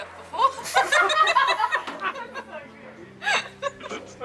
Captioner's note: laughing